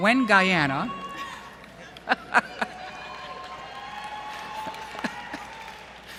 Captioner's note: cheering